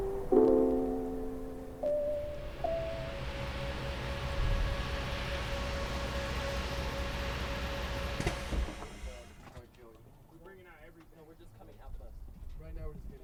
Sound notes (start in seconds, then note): 2.4 motorbus humming; 9.3 chattering from inside bus